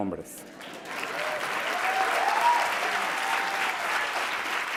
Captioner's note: audience applauds